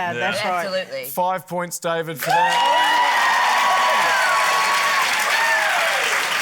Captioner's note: cheering, applause